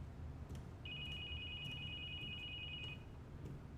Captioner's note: phone ringing